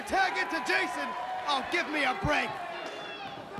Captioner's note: crowd chatter